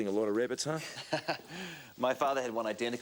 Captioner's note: Graham chuckles